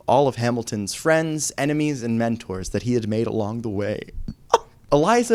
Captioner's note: fake sob